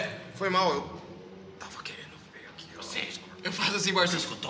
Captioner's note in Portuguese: sussurrando